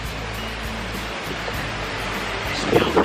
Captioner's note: wind rustling through trees